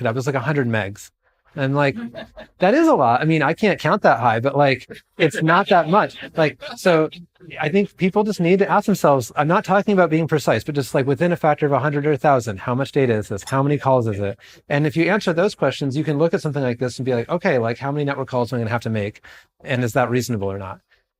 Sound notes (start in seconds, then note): 4.7 chortling